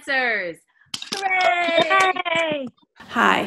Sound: cheering

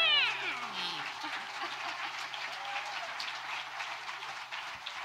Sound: audience applauding

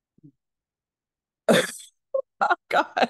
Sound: laughs

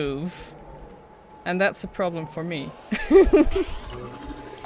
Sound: laughs

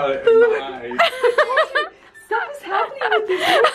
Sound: laughs

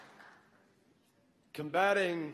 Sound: applause

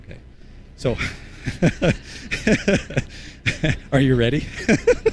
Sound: laughter

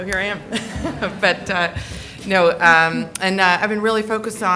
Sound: laughing

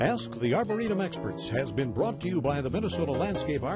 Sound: light rhythmic music; voiceover

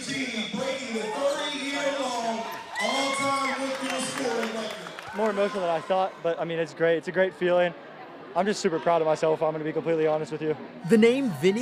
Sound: cheers and applause

